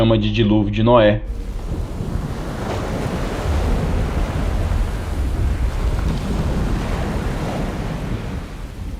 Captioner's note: sound of water